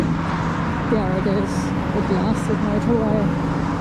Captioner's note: loud car sounds